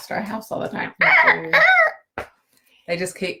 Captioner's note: imitating bird cawing